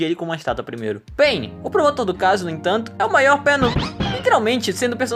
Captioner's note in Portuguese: barulho de super mario world